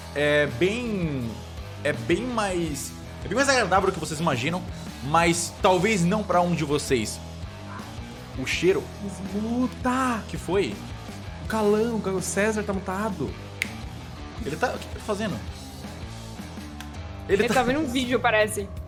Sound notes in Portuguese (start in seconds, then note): 13.6 estalo